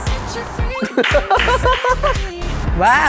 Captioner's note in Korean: 크크